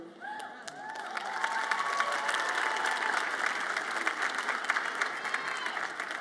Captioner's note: audience applauds and cheers